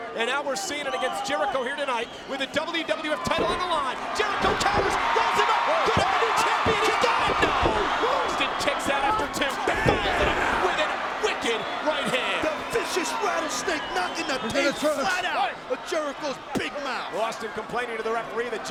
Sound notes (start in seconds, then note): 5.8 audience cheers